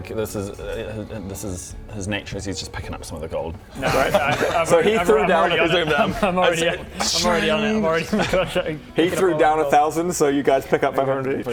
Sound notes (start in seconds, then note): 6.9 shing!